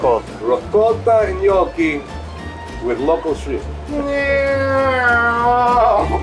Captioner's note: exclaims